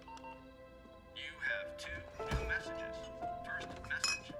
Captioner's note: answering machine beeps; male Electronic Voice